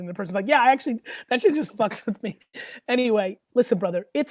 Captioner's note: laughs